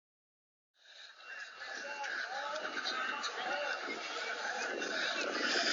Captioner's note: man panting